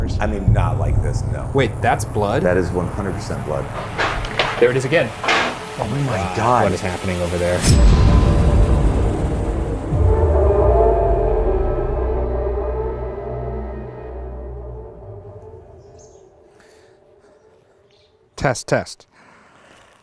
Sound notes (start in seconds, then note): 4.1 objects thudding; 5.6 objects clattering; 8.0 ominous music continues; 14.9 birds chirping